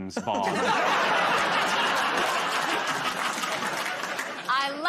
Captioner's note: laughter